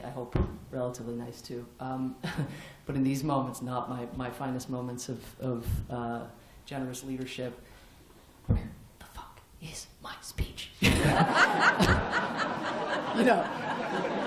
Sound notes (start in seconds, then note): 7.6 whispering; 10.8 laughter